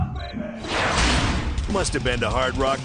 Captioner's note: Hard Rock Park logo whooshes then clangs